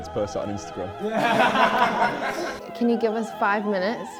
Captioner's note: laughter